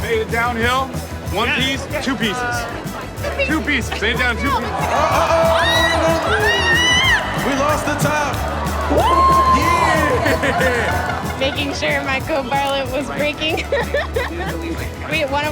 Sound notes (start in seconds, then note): 5.8 yelling; 14.6 laughs